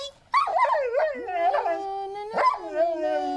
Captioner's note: howls; hums